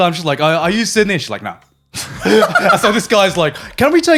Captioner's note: laughing